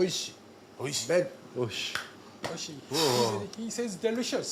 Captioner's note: speaks Japanese